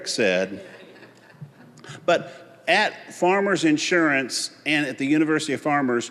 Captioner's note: audience laughing